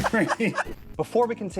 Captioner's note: laughter